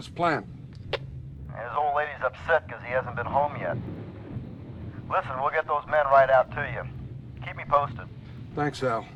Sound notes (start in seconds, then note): 2.0 voiceover